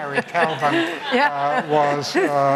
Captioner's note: laughter